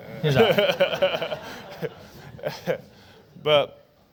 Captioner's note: laughter